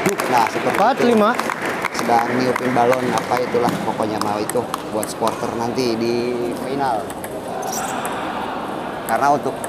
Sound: applause

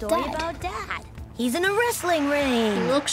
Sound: audience cheers

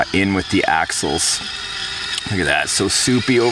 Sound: tires squealing

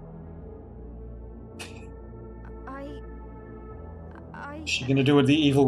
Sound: laughs softly

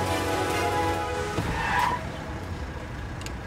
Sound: squealing tires

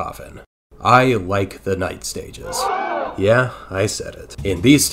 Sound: audience gasps

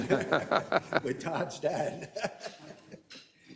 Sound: laugh

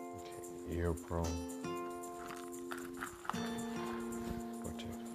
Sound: light, cheerful music; case rattles

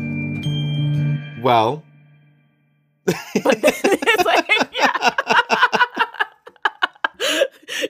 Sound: both laugh

